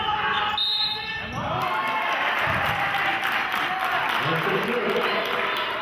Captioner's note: whistle blows; clapping